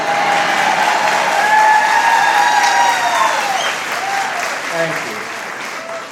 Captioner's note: cheering and applause